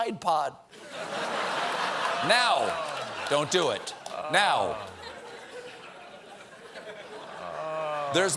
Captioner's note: laughter